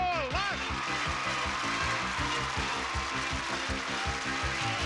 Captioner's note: audience applauding